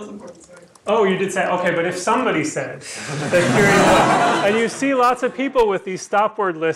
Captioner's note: laughter